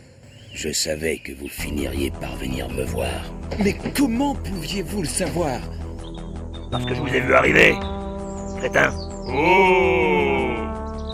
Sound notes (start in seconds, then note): 6.5 "Dhalsim" voice